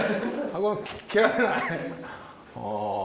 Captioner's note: laughs